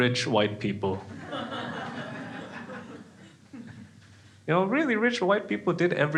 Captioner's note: crowd laughing